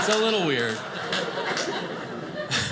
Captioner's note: audience laughing